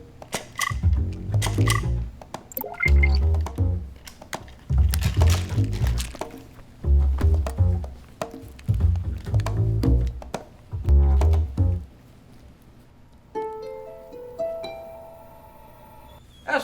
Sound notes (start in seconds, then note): 0.2 pill dispenser clicks; 2.5 electronic beep; 13.9 ethereal music